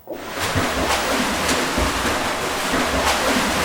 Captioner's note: splashing